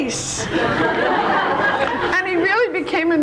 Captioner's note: audience laughs